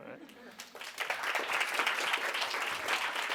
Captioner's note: applause